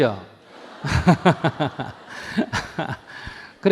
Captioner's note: audience Laughter